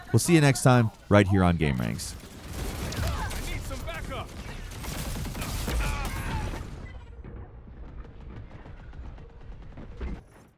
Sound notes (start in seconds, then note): 4.4 galactic weapons firing